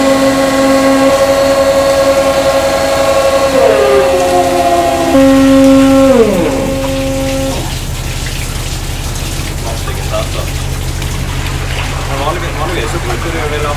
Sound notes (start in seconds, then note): 10.2 chatting